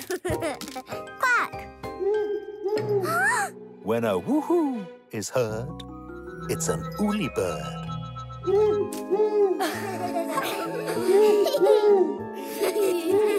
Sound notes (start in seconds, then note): 0.0 Bobble giggles; 2.3 hooting; 3.3 gasps; 8.7 hoots; 9.4 giggling; 11.3 hoots